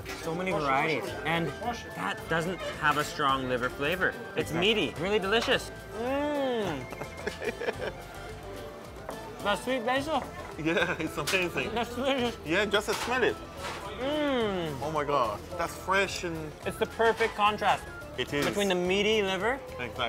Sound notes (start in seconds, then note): 6.1 moans; 6.5 laughs; 14.0 moans